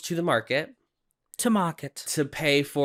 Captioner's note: British accent